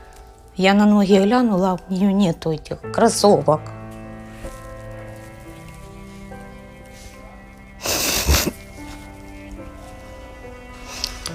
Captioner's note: cries